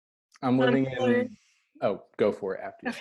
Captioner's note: both murmur